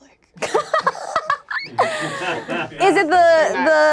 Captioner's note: laughs